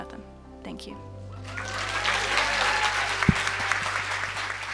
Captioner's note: cheers and applause